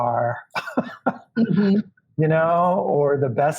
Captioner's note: laughs